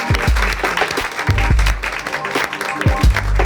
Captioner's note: applause